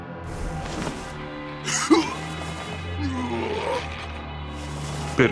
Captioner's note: growling